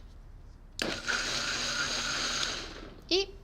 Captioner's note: whirring